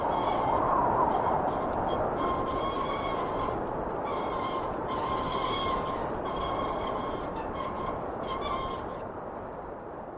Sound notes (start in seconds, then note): 3.8 wind whistling continues